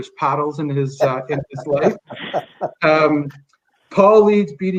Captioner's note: laughing